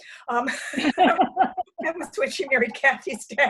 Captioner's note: laughter